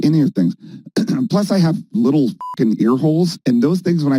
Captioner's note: beep